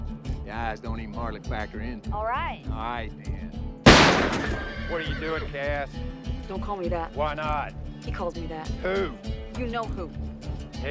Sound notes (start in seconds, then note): 3.9 horse whinnies